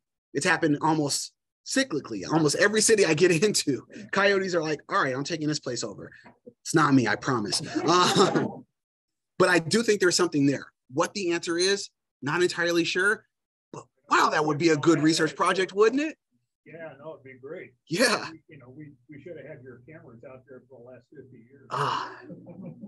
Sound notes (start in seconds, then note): 7.5 laughter